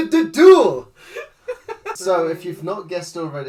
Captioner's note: laughing